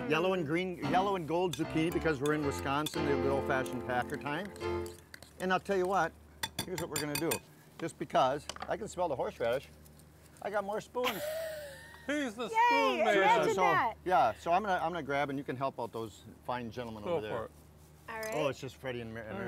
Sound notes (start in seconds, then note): 10.6 laughs